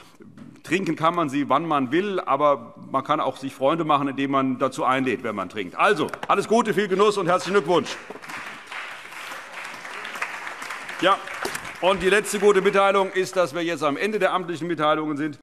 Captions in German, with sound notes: Trinken kann man sie, wann man will. Aber man kann sich auch Freunde machen, indem man jemanden dazu einlädt. Alles Gute, viel Genuss und herzlichen Glückwunsch. [Allgemeiner Beifall] Die letzte gute Mitteilung ist, dass wir jetzt am Ende der amtlichen Mitteilungen sind und in die Tagesordnung eintreten.